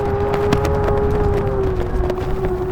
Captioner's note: loud wind